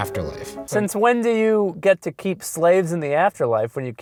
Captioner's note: voiceover